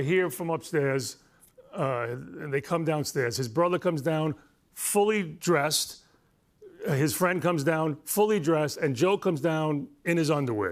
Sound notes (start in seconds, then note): none